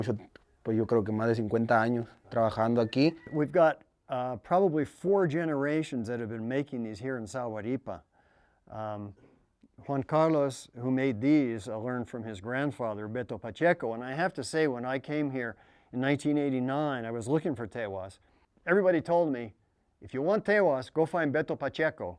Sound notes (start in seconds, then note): 3.4 spanish